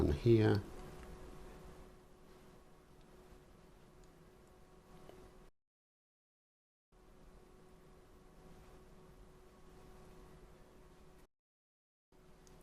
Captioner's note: silence